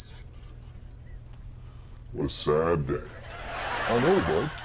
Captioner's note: valve squeaks, helium hissing stops; deep voice